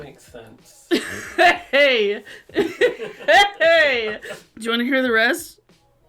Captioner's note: laughs